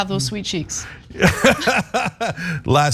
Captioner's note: laugh